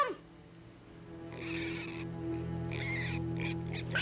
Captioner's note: squealing